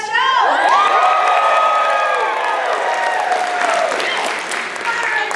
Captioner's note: cheering